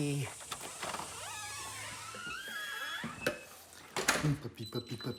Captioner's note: door creaking